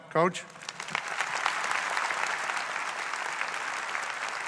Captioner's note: audience applauds